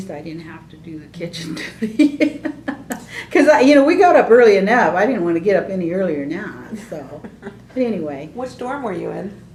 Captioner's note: laughs